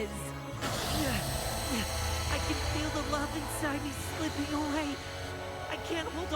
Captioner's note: groans